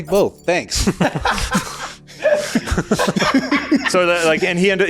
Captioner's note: laughter due to the pure greed